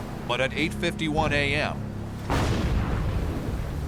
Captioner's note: explosions